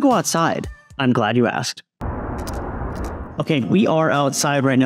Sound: loud noise coming from wind

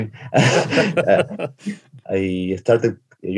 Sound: laughing

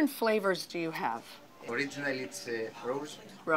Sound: speaking Greek

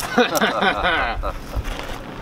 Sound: laughing

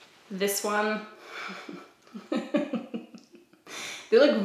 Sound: laughs

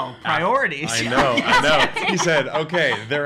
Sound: laughing

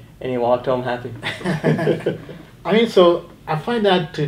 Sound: laughing

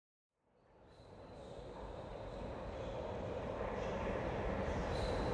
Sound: whispering

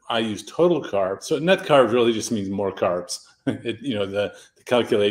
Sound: chuckles

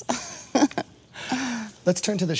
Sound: chuckling

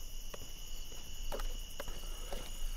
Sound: crickets

